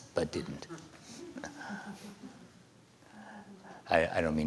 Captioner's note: laughter